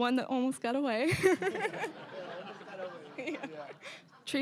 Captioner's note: all laughing